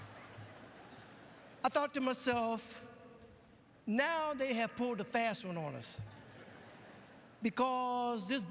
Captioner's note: lauaughghter